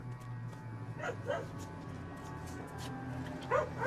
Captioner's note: dog barking